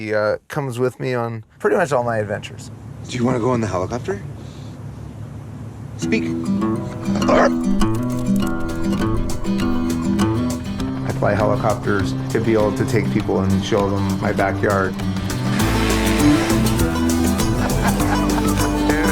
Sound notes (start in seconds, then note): 7.0 dog barking; 8.7 upbeat music; 16.6 upbeat music; 17.4 laughing